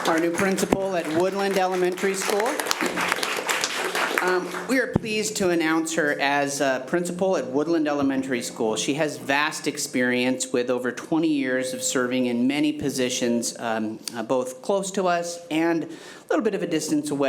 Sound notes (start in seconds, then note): 2.6 committee applauding